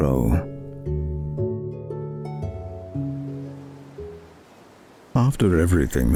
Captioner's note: music fades, wind blowing